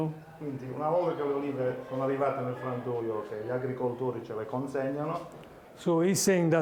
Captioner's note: speaking Italian; Italian language